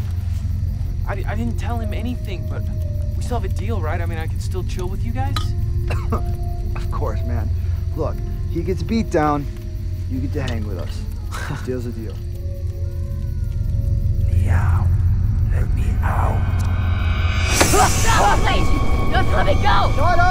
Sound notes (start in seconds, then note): 5.8 coughs; 13.4 demonic voice